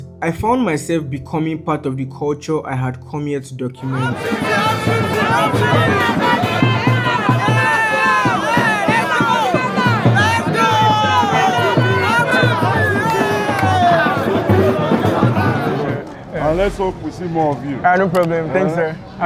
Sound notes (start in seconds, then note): 3.8 fans cheering